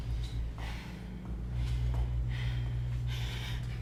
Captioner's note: breathes heavily